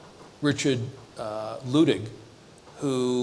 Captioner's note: none